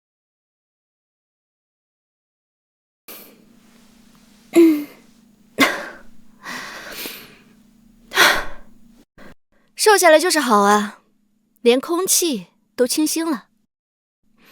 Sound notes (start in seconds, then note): 8.8 sigh